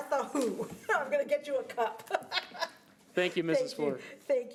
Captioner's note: laughs